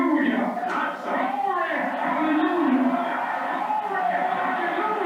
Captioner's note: crowd cheering